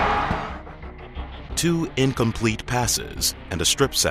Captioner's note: audience screams; voiceover